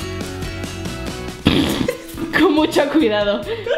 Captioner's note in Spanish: pfff